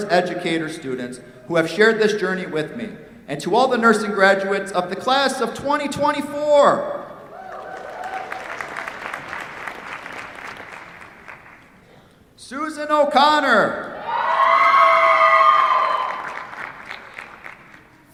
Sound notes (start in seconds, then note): 7.3 cheers, applause; 13.9 cheers, applause